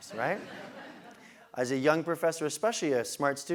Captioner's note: laugh